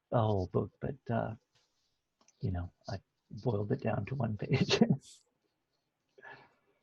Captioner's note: laughs